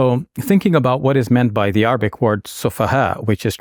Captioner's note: speaking in Arabic